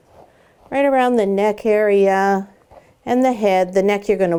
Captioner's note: soft brushing